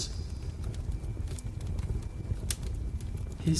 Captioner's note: fire crackles